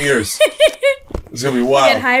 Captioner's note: chuckles